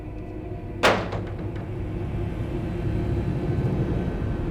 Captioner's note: door clatters